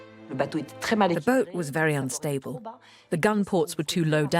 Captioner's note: voiceover